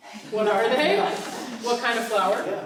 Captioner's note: laughing